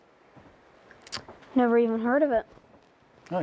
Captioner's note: tuts